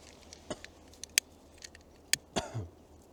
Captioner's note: coughs; igniting lighter